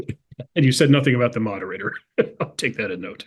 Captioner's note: laugh